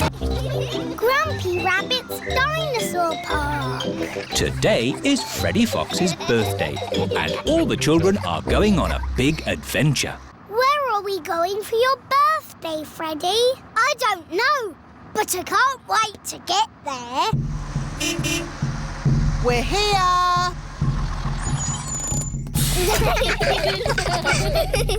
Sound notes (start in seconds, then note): 17.6 horn beeps; 22.6 children giggling